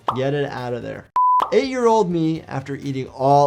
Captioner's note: screen beeps